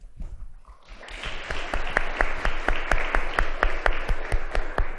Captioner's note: audience applauding